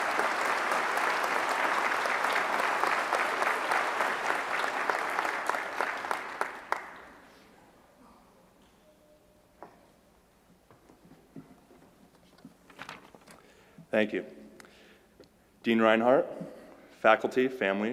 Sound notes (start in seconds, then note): 5.2 applause